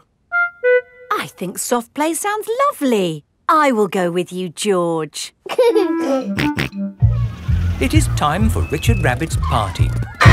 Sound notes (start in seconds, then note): 5.7 giggling and snorting